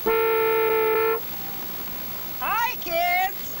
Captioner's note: horn honking